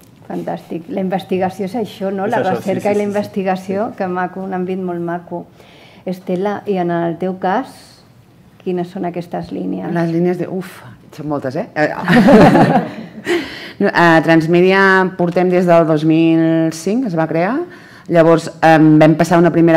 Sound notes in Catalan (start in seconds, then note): 12.8 riures